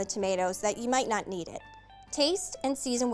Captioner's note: none